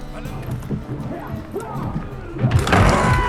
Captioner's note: muffled yelling, clattering